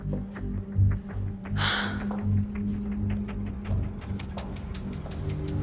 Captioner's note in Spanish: Isabel exhala